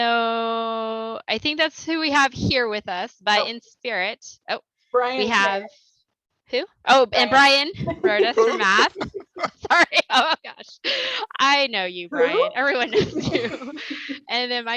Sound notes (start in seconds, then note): 7.8 laughter; 12.7 laughter